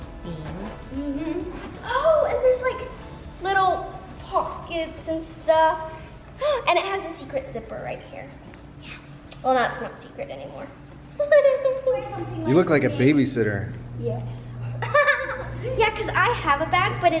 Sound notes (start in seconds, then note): 9.3 whispering; 11.2 laughs; 14.7 laughs